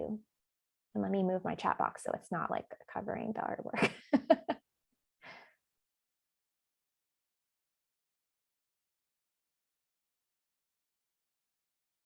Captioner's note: laughs